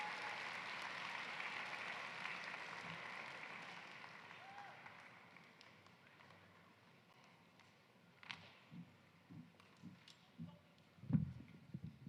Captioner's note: applause